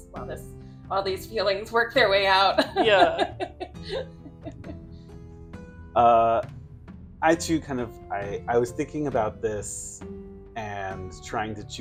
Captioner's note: laughter